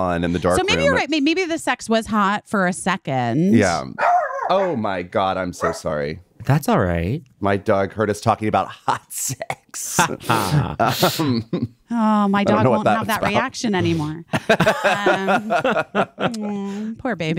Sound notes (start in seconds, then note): 3.9 dog barking; 8.7 chuckling; 8.7 laughing; 14.3 all laughing